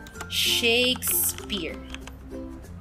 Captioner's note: typing